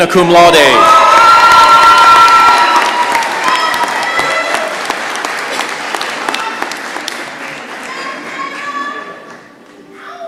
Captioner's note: cheering and applause